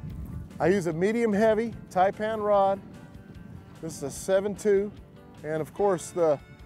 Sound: none

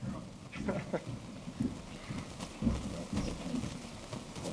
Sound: laughing

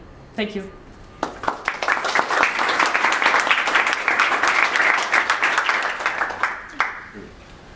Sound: applause

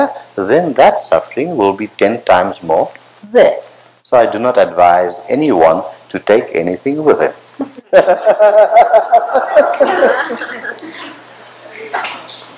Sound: laughter

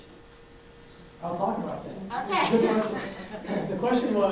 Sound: laughs

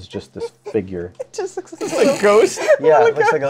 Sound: laughs

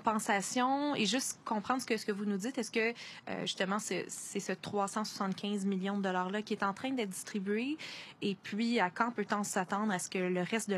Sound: speaking French

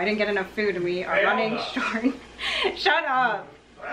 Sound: laughter

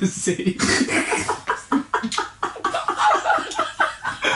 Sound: laughing

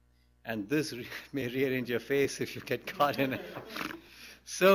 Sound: laughs; laughter

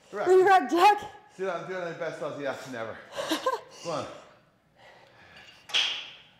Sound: laugh

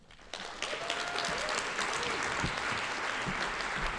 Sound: audience applauding

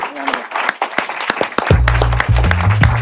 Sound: applause

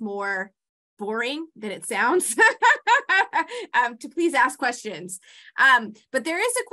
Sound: laughs

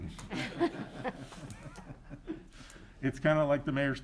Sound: all laugh

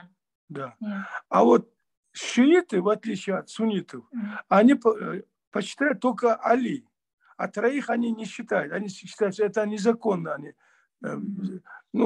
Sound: in Russian

